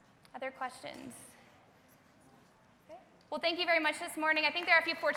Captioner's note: applause